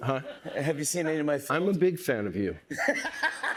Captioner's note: laughs